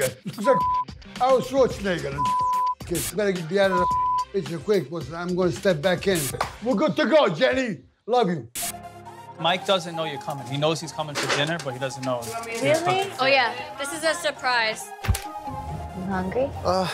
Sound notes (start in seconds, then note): 0.4 beep; 3.7 beep; 6.2 claps hands; 8.8 upbeat music